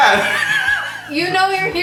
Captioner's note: laughing loudly